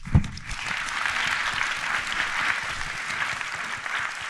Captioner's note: audience applauding